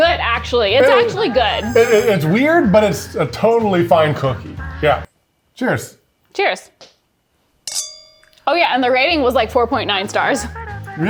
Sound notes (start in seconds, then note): 7.7 glasses clanking